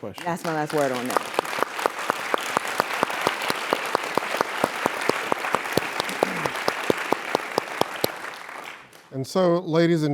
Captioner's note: applause